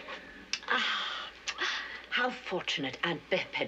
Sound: sighs

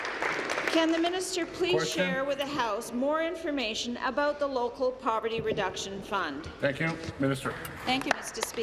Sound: applause

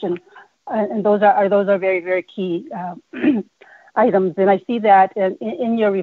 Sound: clears throat

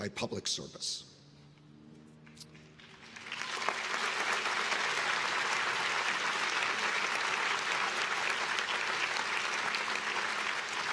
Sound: applause

